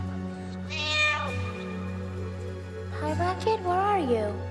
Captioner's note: cat screeching